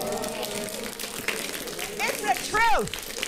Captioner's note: audience applauding